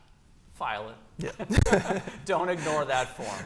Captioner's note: laughter